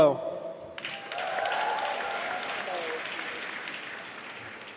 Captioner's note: applause